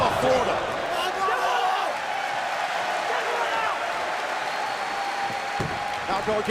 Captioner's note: crowd cheering